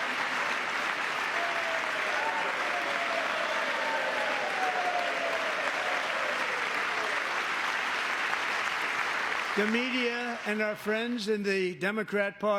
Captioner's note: applause